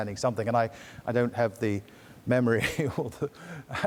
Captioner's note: giggles